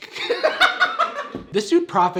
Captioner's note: laughing